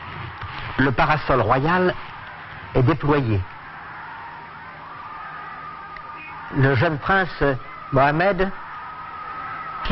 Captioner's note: applause